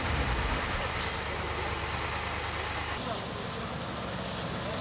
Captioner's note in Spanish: Sonido de las mangueras de los bomberos